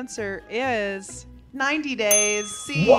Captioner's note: bell dinging; group cheering